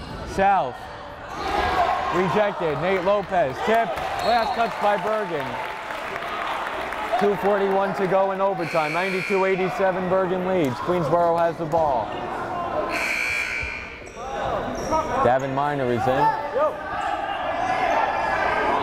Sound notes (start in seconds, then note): 13.4 timer buzzes